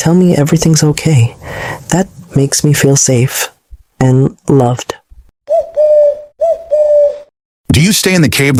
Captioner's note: dove coo